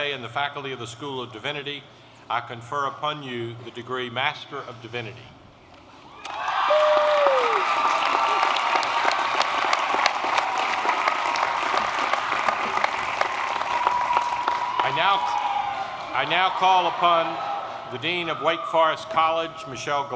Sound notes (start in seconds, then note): 5.7 applause